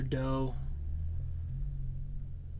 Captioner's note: sighs